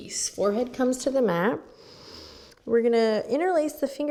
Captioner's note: inhales